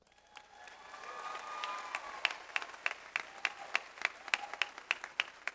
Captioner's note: audience applauds